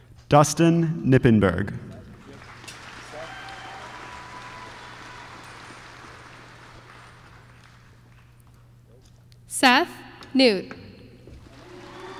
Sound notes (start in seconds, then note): 2.1 applause